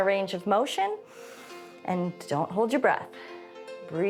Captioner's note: inhales